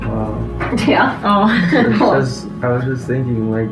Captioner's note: laughs